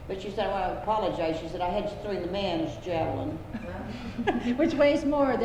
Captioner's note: laughter